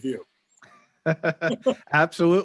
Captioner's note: laughing